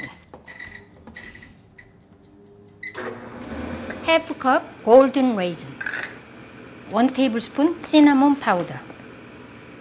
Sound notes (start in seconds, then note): 0.1 microwave beeps; 2.8 microwave whirs